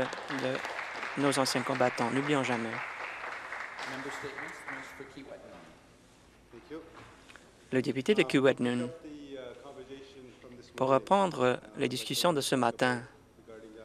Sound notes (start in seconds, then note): 2.9 applause